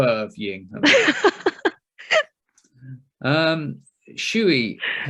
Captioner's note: laughs